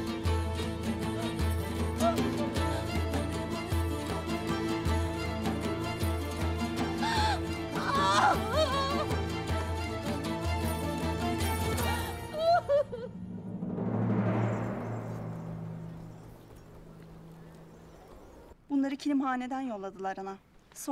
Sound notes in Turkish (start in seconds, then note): 0.1 Müzik - Gerilim; 7.7 Ağlama sesi; 13.2 Müzik - Vurmalılar